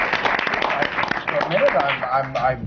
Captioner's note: applause